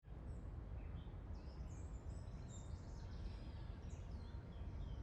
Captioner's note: birds chirping